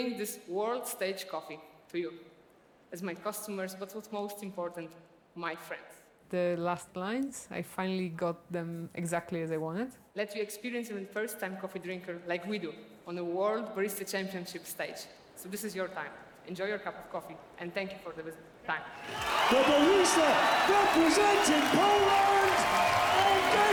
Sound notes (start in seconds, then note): 18.9 cheering